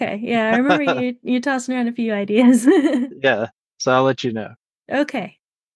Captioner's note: laughs; laughs